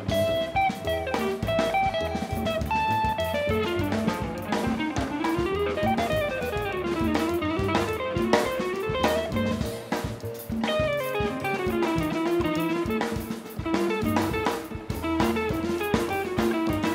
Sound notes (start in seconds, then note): none